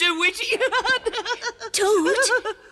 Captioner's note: laughs